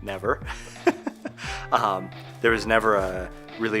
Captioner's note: laughing